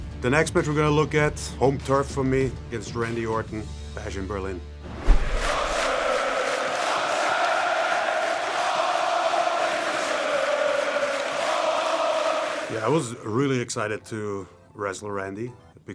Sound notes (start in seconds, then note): 5.1 crowd chanting in foreign language